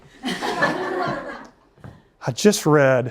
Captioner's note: laughter